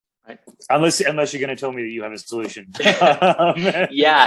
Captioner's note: BOTH laugh